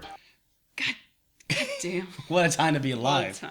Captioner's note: chuckles